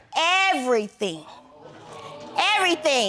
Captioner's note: audience gasps